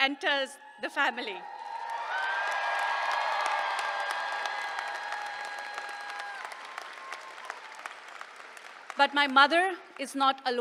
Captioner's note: applause